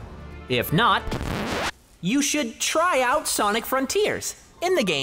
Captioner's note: record scratch